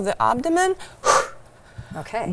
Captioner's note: exhale